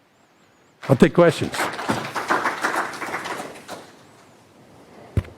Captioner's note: audience applauds